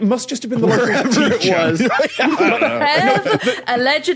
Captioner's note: laughs